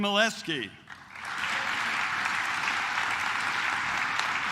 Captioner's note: claps